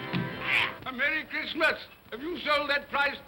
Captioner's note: banging on door; poulter grunts